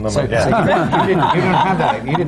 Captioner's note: laughter